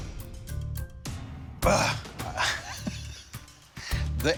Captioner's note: groans, laughs